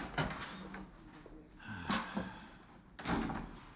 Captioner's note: sighs